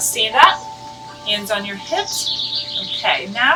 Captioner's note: bird chirps